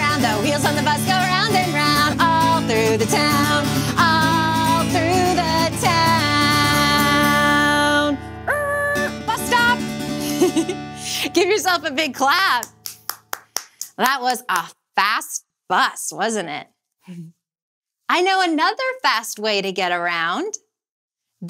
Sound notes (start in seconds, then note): 10.2 giggles; 12.5 clapping